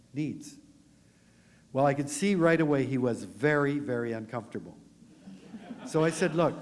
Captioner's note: laughter